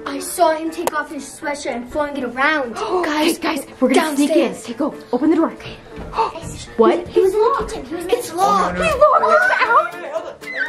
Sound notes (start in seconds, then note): 2.7 gasps; 6.0 gasps